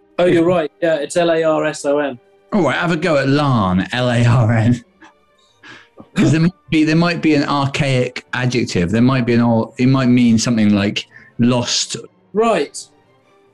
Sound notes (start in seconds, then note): 5.6 laughing